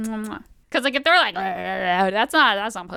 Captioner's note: aggressive making out noises